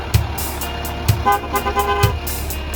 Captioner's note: honking horn